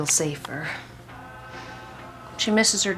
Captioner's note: man vocalizing